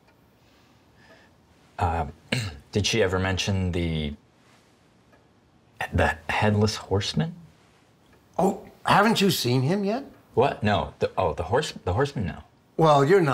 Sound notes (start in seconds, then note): 2.3 clears throat